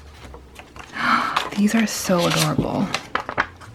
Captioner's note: gasp